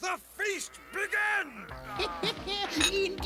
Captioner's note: chuckles